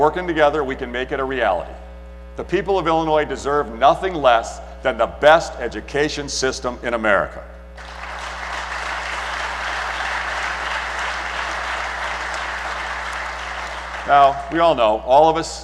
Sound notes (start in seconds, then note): 9.7 applause